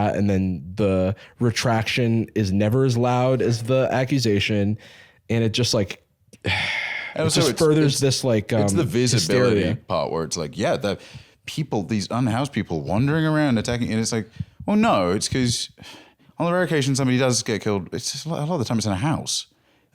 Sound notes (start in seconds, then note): 6.4 sighs